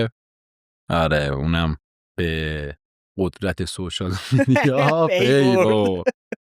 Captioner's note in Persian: خنده